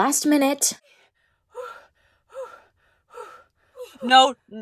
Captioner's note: heavy breathing